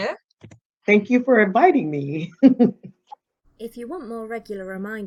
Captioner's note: chuckling